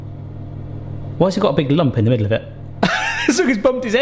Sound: laughs

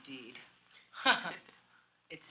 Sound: chuckling

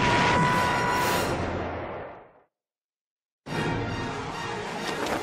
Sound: screaming

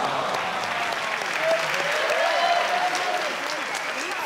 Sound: audience sighing; clapping

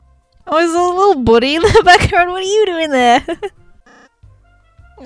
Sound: laughs

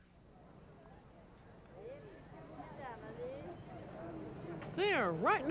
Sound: street sounds

